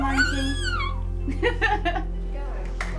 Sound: she squeals

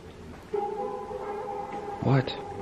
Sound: child's voice

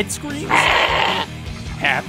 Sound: bleating

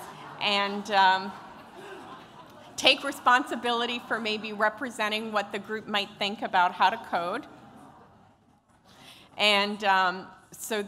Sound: laughter

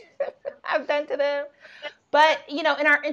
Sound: laughing

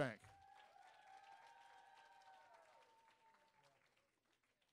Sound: audience cheering

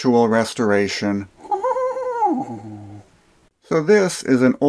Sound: chuckling

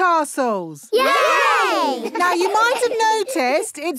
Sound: laughing

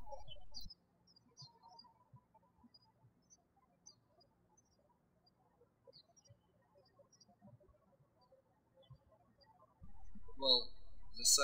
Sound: birds chirping

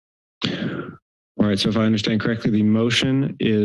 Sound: inhales

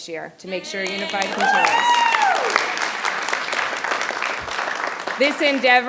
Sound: audience applauding

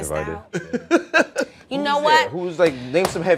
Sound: laughter

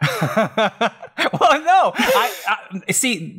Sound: laughs

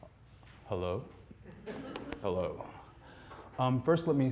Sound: audience laughing

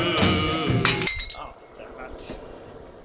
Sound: glass shatters

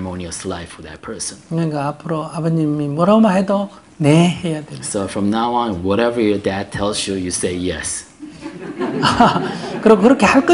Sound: audience laughter

